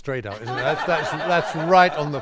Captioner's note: laughing